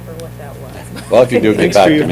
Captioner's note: laughter